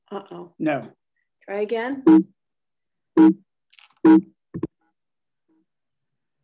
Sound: beeping sound

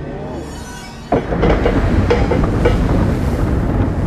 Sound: mechanism moving

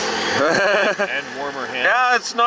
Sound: laughing

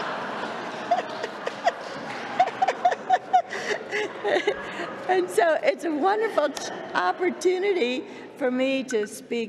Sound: laughter

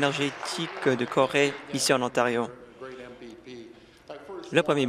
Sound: applause

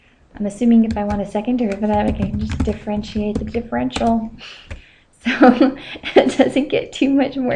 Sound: laughter

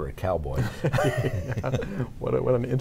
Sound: laughing

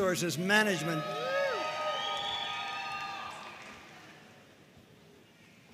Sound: audience cheering and applauding

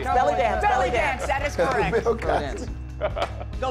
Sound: laughing, indistinct

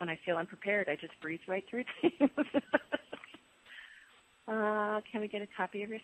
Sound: laughs

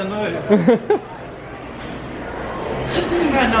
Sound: chuckling

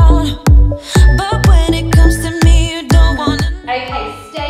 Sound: beeping

